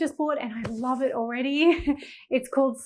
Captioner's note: chuckling